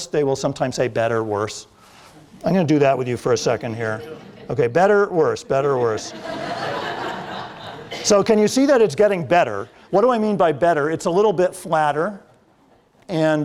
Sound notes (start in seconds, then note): 5.7 laughter